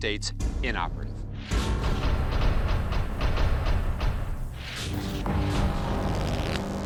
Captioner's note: blast sound